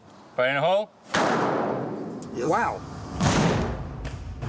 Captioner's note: gunshot